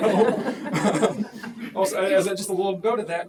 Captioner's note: laughter